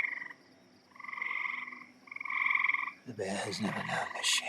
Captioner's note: frog and insect noises continue